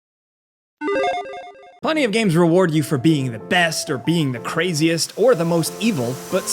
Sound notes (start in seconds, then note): 0.8 video game blipping